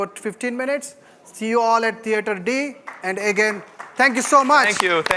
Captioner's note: applause